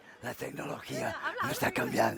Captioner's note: speaking spanish